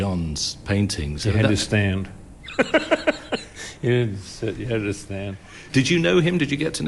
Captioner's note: laughs